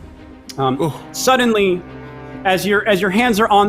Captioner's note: groans